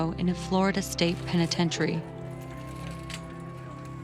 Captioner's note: siren wails